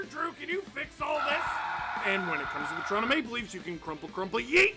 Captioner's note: screaming